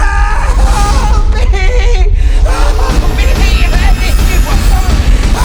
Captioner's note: screaming; Alex screaming